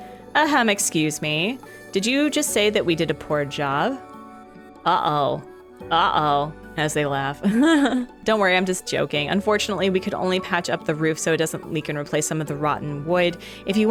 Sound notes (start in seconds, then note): 7.4 laughs